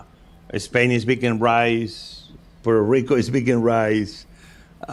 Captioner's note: laughs